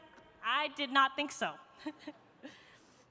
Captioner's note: chuckles